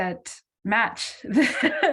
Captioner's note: laughs